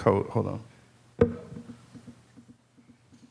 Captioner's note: mic thuds